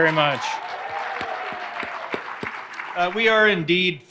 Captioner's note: audience applauding